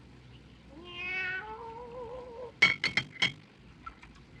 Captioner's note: meowing